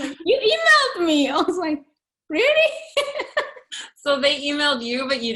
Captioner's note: chuckling